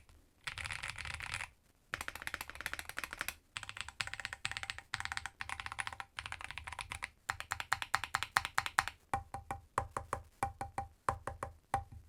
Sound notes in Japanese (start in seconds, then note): 1.9 打鍵音チェック中